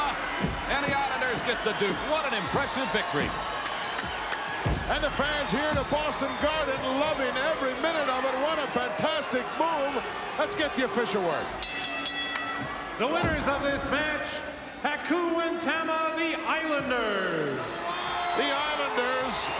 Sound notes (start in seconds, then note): 11.6 bell rings; 16.3 audience cheering